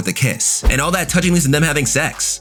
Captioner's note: air whooshing